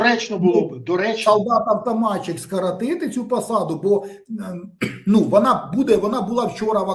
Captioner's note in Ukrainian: прочищення горла